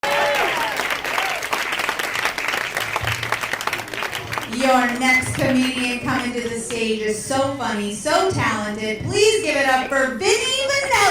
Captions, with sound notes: [Cheers and applause] Your next comedian coming to the stage is so funny, so talented, please give it up for Vinny Vinelli.